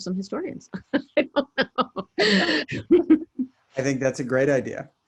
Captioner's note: laughs